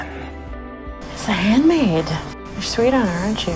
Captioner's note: voiceover